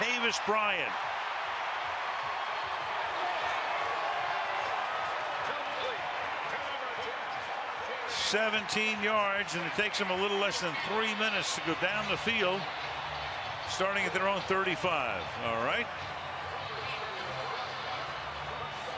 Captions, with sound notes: by Martavis Bryant. [crowd cheering] 17 yards, and it takes him a little less than three minutes to go down the field. Starting at their own 35. All right.